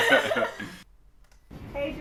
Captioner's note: both laugh loudly